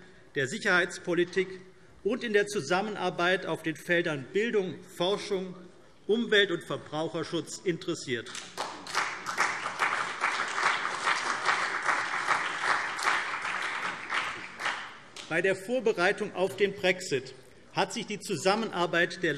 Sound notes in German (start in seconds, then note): 8.3 Beifall CDU und BÜNDNIS 90/DIE GRÜNEN